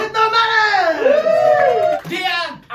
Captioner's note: audience cheering